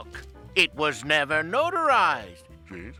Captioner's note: different voice of Frank Welker